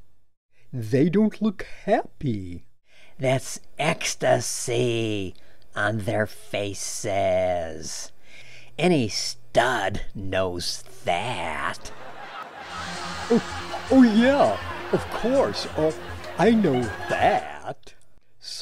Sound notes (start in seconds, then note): 11.6 laughter continues; 11.7 laughter